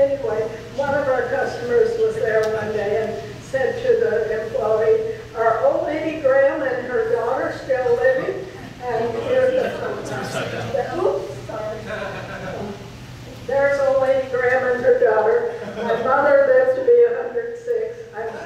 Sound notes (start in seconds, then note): 11.8 audience laughs